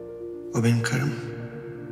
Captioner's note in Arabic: صوت آدم الداخلي